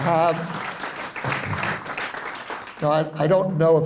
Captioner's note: applause